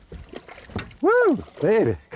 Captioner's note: splash